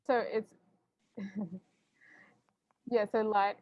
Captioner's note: laughs